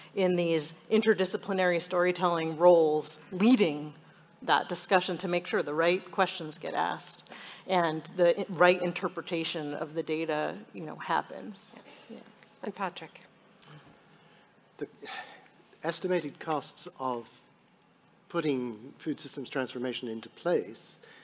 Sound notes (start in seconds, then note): 13.5 sighs